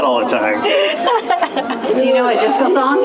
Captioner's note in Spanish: risas